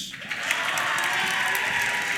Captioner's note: applause